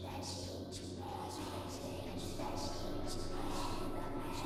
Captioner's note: ghostly Voice